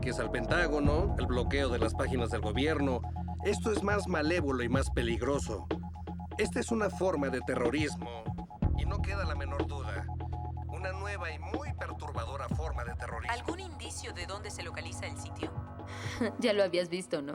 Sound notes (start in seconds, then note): 12.7 voiceover